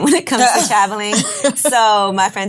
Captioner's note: laughs